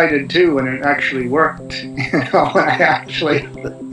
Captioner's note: chuckling